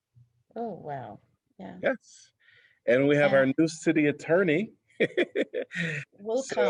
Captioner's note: laughter